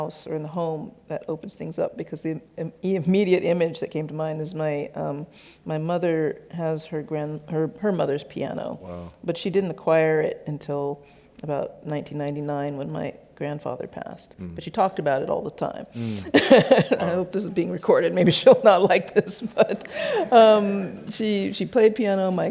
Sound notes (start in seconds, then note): 16.0 laughs